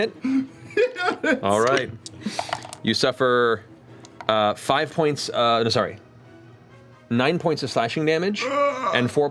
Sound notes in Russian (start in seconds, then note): 0.6 смеётся